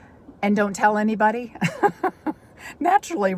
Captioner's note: laughs